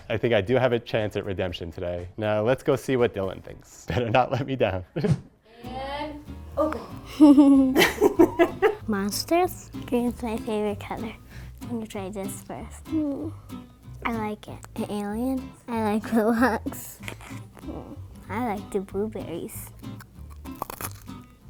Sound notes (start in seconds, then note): 7.0 chuckling; 8.1 laughing